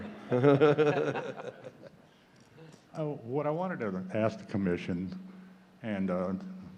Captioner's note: laughter